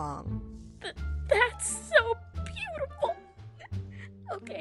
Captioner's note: sobbing